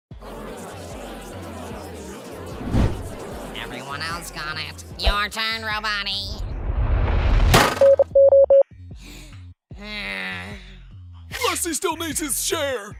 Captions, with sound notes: [EVERYONE CHATTING] Everyone else got it. Your turn, Roboty! [DEEP ANNOYED BREATH] GRASSY STILL NEEDS HIS SHARE!